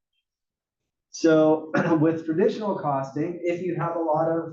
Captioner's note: cough